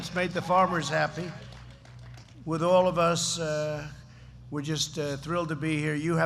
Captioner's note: applause